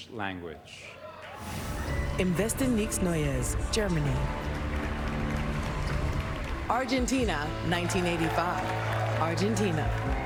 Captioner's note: applause